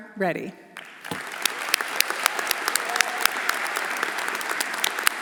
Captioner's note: everyone applauding